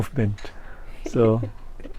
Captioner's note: laughs